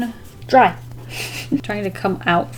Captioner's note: giggles